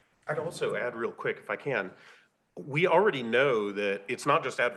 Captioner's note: none